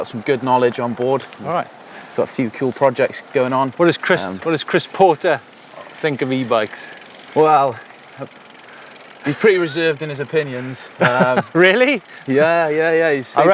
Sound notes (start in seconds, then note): 10.8 laughs